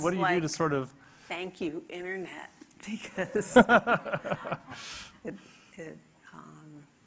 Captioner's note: audience laughing